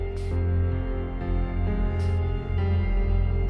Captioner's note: machine pumping